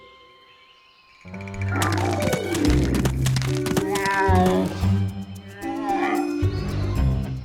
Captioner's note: bells jingling